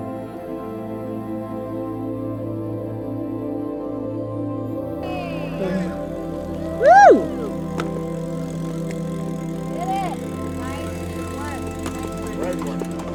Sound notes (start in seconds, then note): 0.2 gentle music continues; 6.4 group cheering